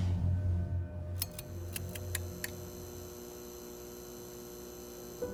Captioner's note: light bulbs buzzing; soft music